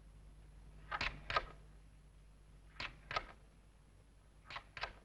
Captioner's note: record player ticking